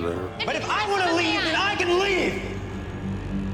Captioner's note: shouts